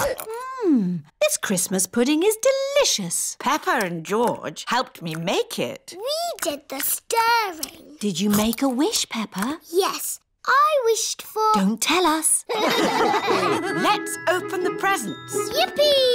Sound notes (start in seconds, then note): 12.5 all laugh